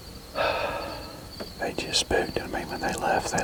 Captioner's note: sigh